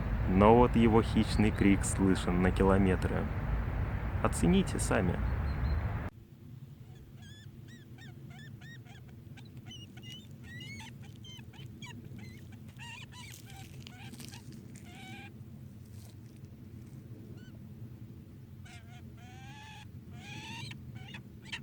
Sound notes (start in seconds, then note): 6.8 falcon chirping and screaming from afar